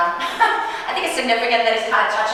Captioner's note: chuckling